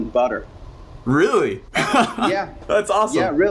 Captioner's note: laughs